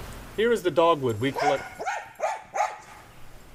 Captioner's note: dogs barking